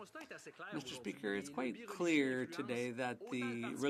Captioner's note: speaking French